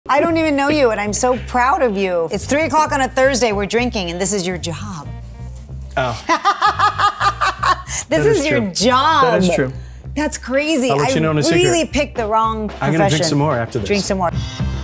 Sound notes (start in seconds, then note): 6.2 Eva laughs; 14.6 upbeat music